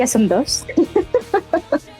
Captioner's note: laughs